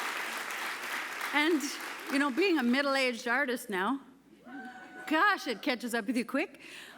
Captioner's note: applause